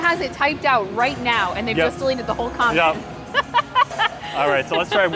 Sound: laughs

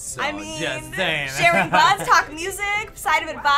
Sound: laughs

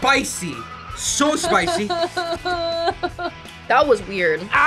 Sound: cries

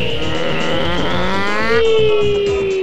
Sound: reverse flying noises

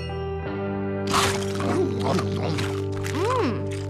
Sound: chewing

